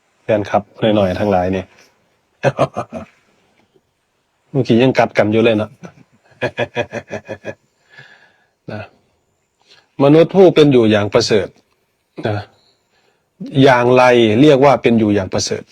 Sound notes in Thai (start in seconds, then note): 5.5 เสียงหัวเราะ